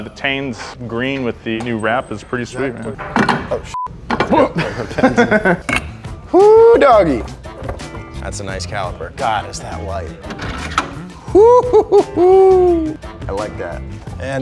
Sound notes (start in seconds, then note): 3.7 beep; 4.2 chuckle